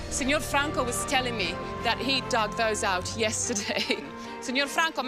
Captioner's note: chuckles; speaks Italian